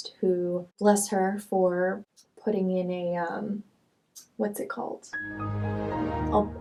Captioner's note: Windows power down sound effect